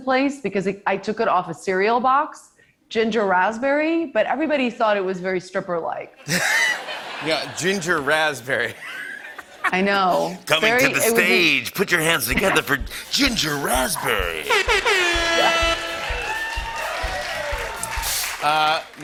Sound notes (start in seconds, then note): 6.2 laughter; 14.4 airhorn honks; 16.3 cheers and applause